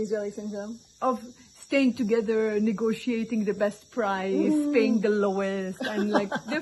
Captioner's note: laughing